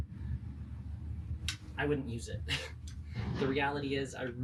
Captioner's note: laugh